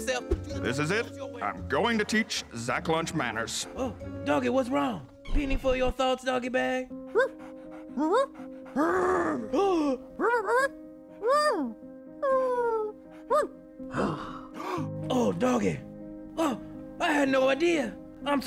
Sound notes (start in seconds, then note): 7.1 growls; 9.7 gasps; 10.1 doggie yelping and whimpering; 13.8 gasps